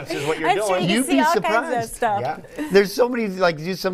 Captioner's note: laughter